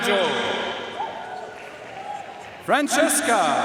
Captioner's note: audience cheering and applauding